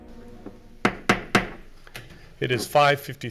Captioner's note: gavel banging